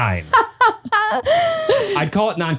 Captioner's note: laughs